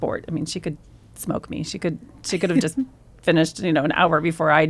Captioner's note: laughs